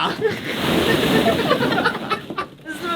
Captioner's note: laughing